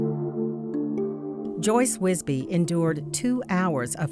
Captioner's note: voiceover